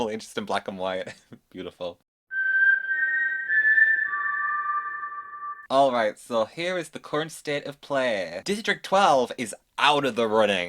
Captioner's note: whistles